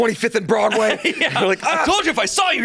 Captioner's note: laughs